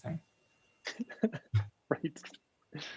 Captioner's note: laughs